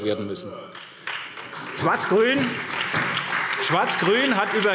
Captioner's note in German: Beifall SPD